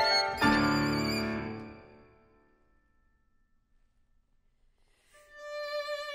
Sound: music Stops

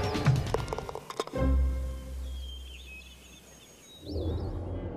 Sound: birds chirp; ball clatters; rising tones

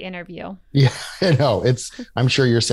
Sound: laughs

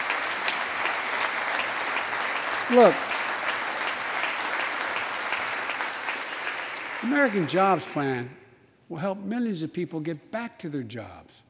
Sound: applause

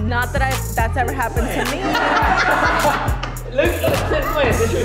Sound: all laugh

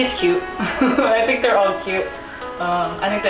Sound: laughs

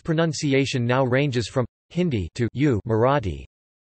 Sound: Hindi

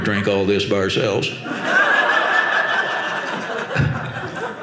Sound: audience laughing

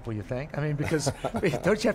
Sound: laughing

